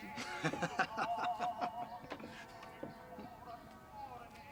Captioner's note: man chuckling